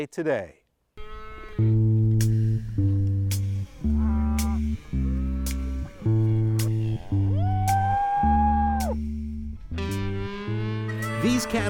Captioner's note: cows mooing